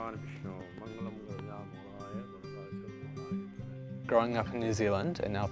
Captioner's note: speaking foreign language